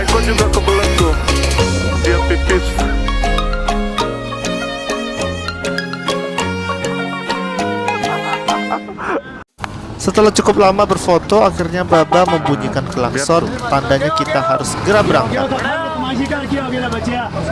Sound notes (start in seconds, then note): 11.8 the sound of a car horn